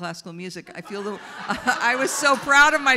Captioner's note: audience laughs